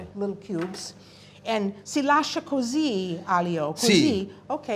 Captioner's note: speaking italian